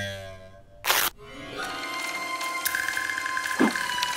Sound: film reel whirs; crunching

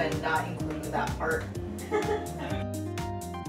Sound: laughs from another room

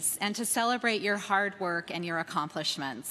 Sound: none

